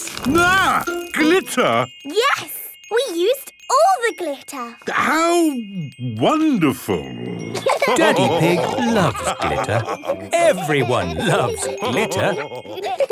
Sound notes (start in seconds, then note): 7.5 laughter